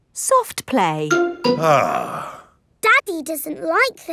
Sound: sighs

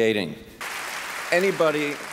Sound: clapping

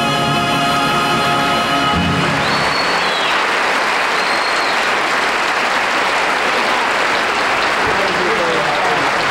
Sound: audience applauds

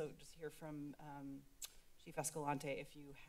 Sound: clicks tongue

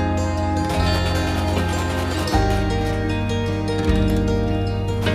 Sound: sewing machine humming

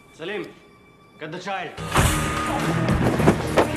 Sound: whacks; suspenseful music; yelling

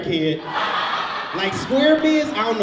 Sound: audience laughs

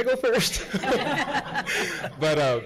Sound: all laugh

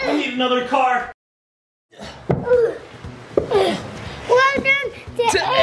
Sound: breathes heavily

